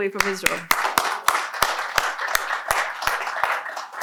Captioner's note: applause